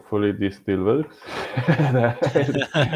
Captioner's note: laughing